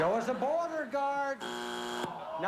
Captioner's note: buzzer